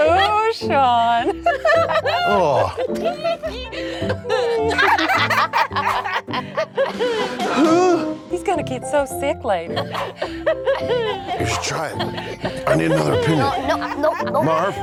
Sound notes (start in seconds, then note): 1.0 giggling; 4.8 Rhubarb and Floret cackling; 7.5 Shawn groans; 9.7 giggles